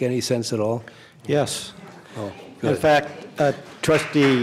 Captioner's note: applause